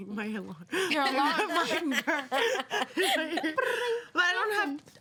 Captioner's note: women laugh